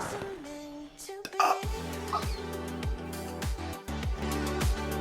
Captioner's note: shocked Gasping